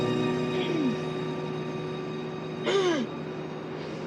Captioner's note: coughing